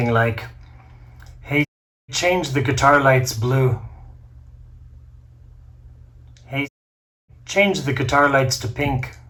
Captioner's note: Siri